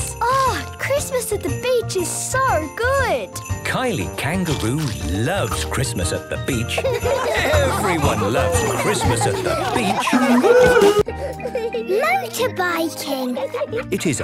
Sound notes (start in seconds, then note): 6.6 laughter; 10.0 surfing music